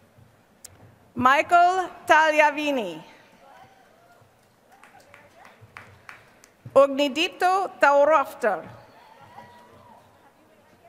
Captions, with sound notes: Michael Taliavini. [APPLAUSE] Ognidito Thaurafta.